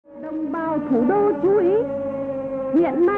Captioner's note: anti-aircraft alarm sound